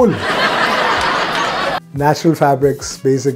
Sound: audience laughs

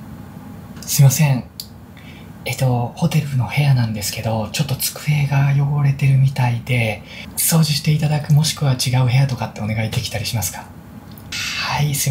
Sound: speaking japanese

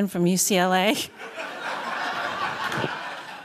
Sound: laughter

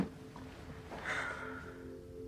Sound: exhales

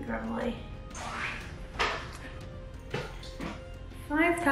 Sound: chair creaking

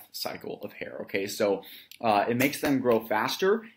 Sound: claps hands

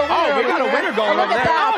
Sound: cheers and applause

